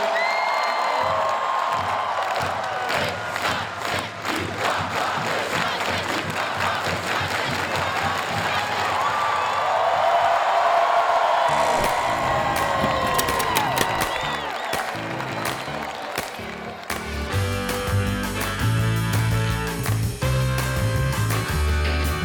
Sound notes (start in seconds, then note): 0.2 crowd cheering; 11.9 upbeat jazzy music; 13.4 lever unlatching